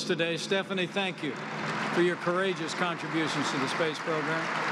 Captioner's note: applause